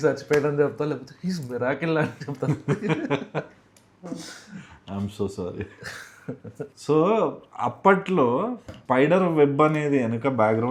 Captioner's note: laughs